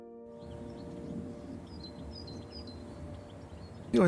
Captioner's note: birds chirping